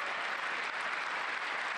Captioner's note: applause